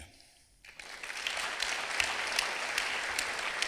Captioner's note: clapping